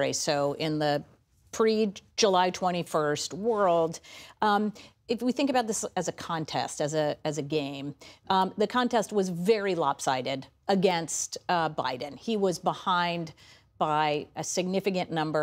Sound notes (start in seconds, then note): none